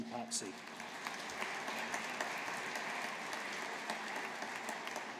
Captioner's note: audience applauding